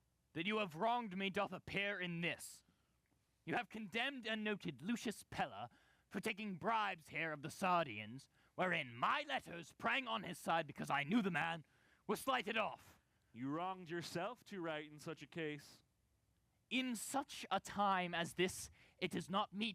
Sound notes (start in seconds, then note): none